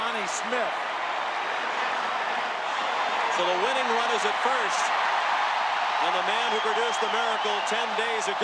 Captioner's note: cheering and Applause